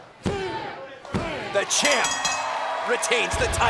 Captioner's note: bell ringing